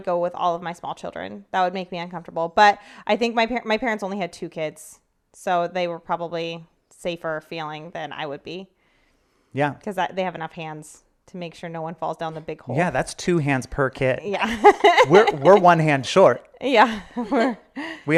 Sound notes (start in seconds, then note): 14.4 laughing; 17.4 chuckling